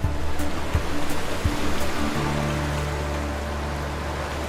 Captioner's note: water flowing